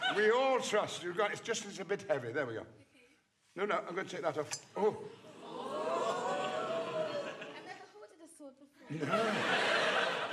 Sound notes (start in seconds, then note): 5.5 audience gasping; 8.8 audience laughing